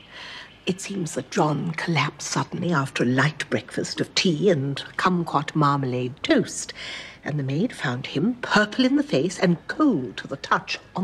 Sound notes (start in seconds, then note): none